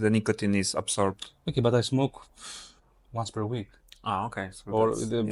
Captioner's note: puffs